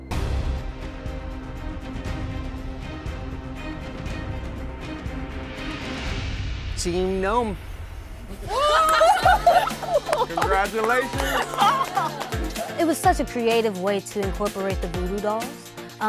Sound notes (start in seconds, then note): 0.1 suspenseful music; 8.4 cheering